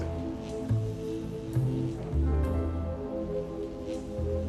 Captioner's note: electricity buzzing